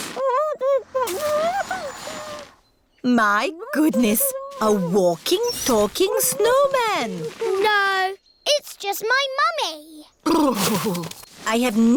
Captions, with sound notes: (MUFFLED GROANS) My goodness! A walking, talking snowman. -No. It's just my mummy. -Brrrrr!